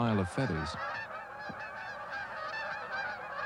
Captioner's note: geese honking vigorously